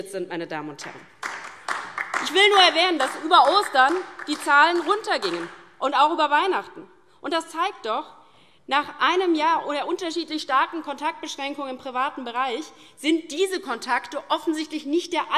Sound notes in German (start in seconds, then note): 0.9 Beifall DIE LINKE